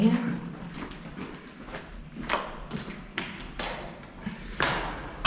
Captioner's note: echoing footsteps continue